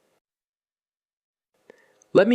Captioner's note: pause